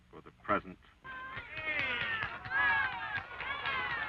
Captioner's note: crowd cheering